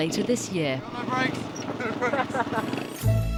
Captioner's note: people laughing; bright music